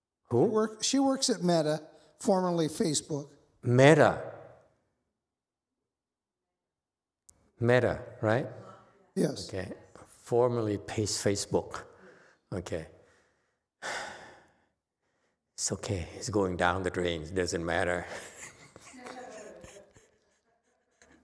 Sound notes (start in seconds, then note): 13.8 sighs; 18.0 laughs